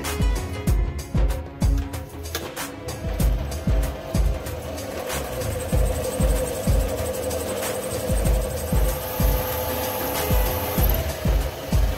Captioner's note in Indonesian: suara mesin